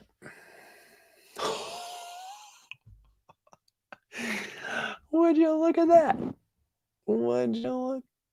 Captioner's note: laughs